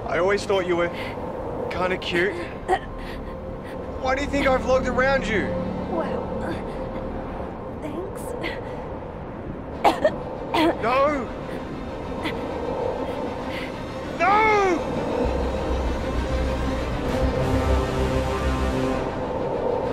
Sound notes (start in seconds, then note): 9.8 coughing; 15.4 dramatic music